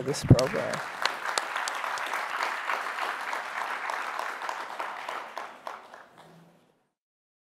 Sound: applause

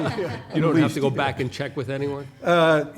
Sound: laughter

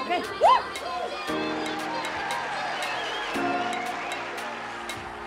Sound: crowd cheers

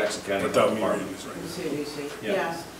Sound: murmurs

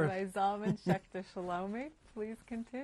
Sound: laughs

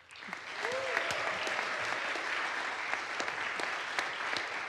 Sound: audience applauds

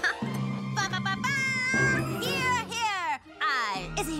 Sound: laughing; exclaiming

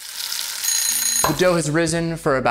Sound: timer ringing

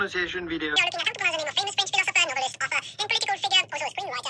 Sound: sped up talking

